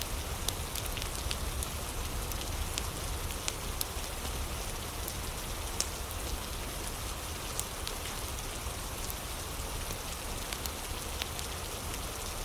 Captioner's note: fire crackling; fire crackling